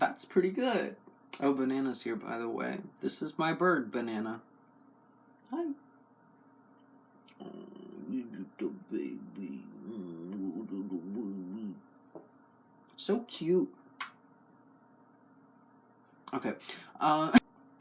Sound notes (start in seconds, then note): 8.2 kiss; 10.2 laugh